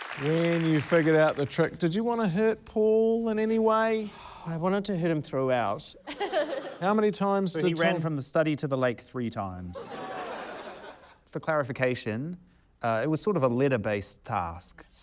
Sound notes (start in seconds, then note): 6.0 laughter; 9.7 laughter